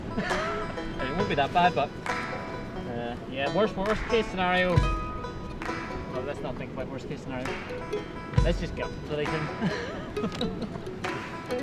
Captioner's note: laughs